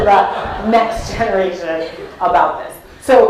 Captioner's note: laugh